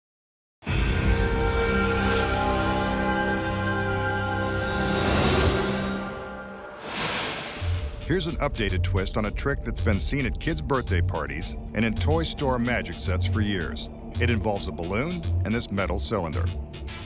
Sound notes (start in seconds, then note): 0.2 dramatic instrumental music; 6.8 light beam swishing